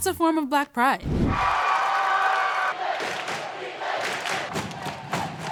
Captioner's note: crowd cheering